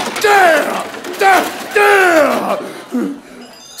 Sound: grunting

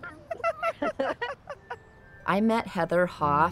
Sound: laughter

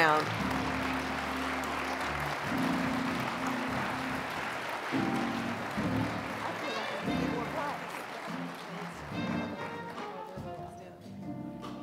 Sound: applause; mellow jazzy music

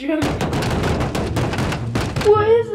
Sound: thumping

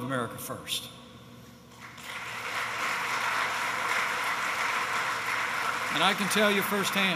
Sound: applause

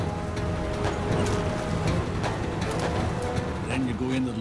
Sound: water splashing from missile shots

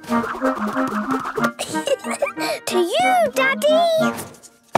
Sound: giggling

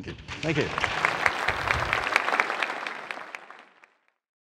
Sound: audience applauding

